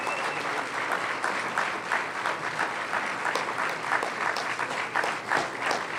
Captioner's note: applause